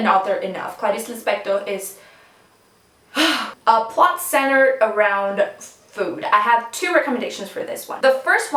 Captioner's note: sighs